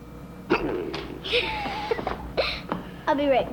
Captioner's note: dad growls; Amy laughs